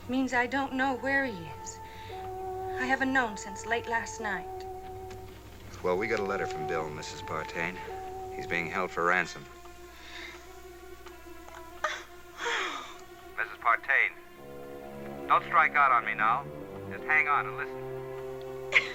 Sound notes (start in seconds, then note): 11.6 crying; 13.4 Pete on phone